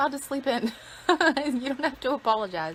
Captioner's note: laughs